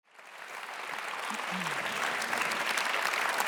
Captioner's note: applause